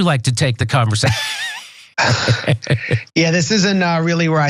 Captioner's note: laugh